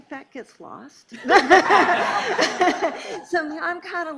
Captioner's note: laughing